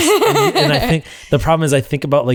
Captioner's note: laughter